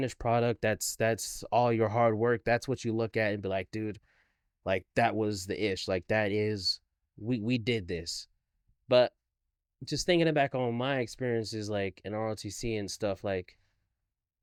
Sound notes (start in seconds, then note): none